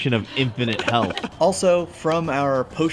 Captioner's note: laughs